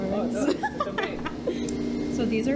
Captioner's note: laughs